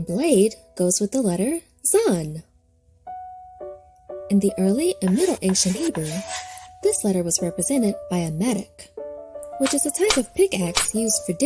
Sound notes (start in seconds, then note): 3.1 pensive piano music; 5.0 chalk scratching; 10.1 dirt crunching